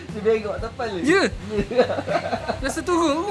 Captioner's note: laugh